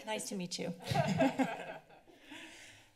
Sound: laughter

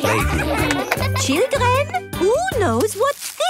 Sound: claps

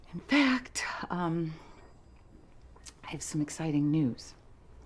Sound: none

